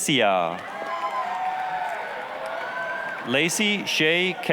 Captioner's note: applause, cheering